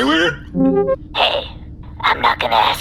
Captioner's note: voicemail plays